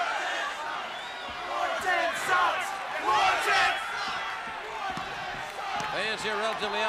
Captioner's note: crowd cheering